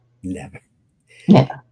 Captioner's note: laughing